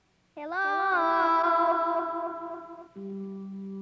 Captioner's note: voice echoing